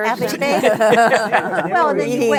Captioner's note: laughter